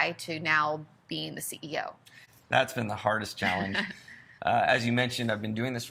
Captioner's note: laughs